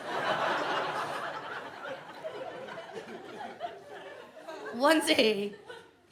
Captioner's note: audience laughs